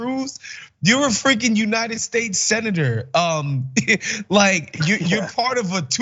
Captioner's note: laugh